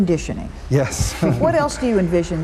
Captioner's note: laughs